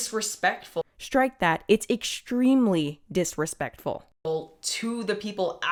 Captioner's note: voiceover